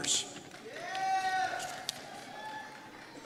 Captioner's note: cheers